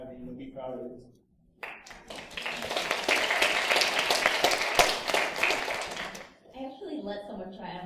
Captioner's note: applause